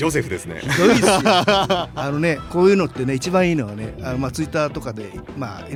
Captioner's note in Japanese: 笑い